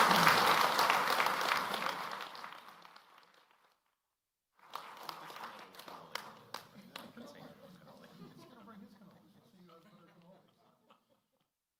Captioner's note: applause